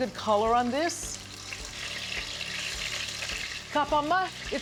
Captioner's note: sizzling